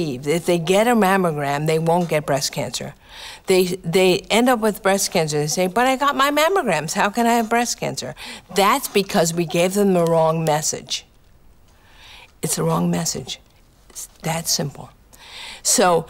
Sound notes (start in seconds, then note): none